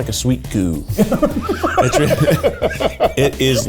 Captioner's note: laughing